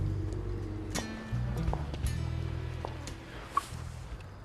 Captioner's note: footsteps